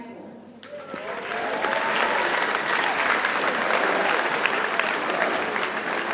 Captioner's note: audience cheers and applauds